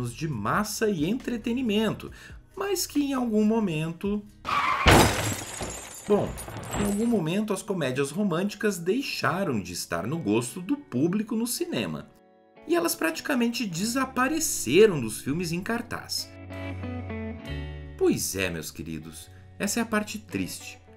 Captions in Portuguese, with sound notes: de massa e entretenimento, mas que em algum momento... (barulho de batida de carro) Bom, em algum momento as comédias românticas deixaram de estar no gosto do público no cinema. E elas praticamente desapareceram nos filmes em cartaz. Pois é, meus queridos, essa é a parte triste.